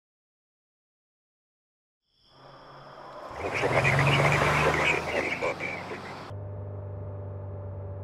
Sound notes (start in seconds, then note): 2.2 car on road noise; 2.3 car on road noise WTF CAR SAYIN'